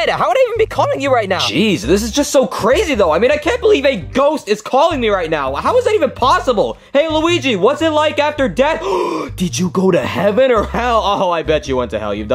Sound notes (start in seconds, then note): 8.7 gasps